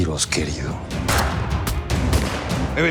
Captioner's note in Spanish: Disparos